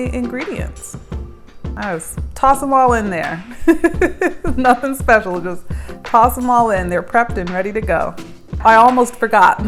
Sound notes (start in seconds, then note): 3.4 laughs